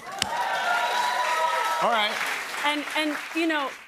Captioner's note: cheers and applause